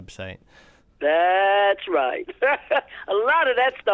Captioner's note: laughter